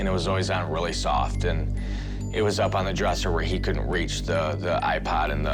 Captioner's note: none